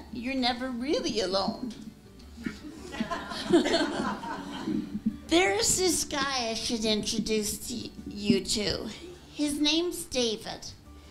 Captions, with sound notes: you're never really alone. [LAUGHTER] There is this guy I should introduce you to. His name's David.